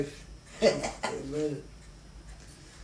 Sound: chuckles

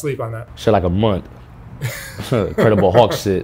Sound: both laugh

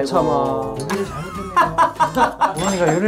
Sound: hahahaha

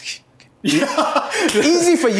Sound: laughter

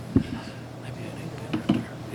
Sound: faintly speaking

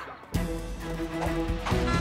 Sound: grunting

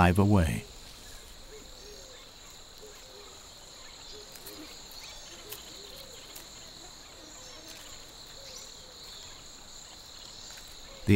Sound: birds chirping

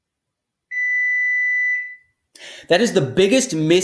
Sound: beeps

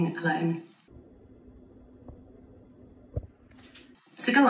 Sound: slightly distorted sound

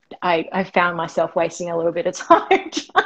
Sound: laughing

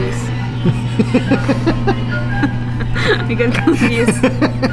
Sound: laughing

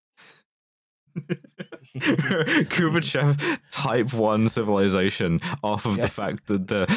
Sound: chuckles

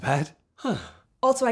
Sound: Tom sighs

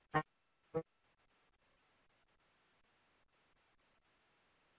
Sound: no audio

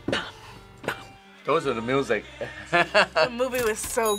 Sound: laughs

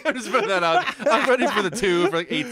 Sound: laughs

